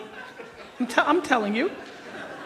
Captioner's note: audience laughs